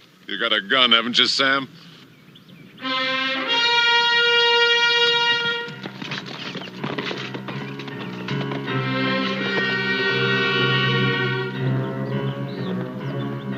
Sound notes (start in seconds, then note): 2.2 horse whinnying; 2.2 theme song playing